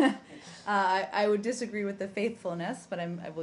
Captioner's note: laughter